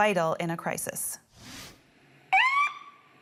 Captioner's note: siren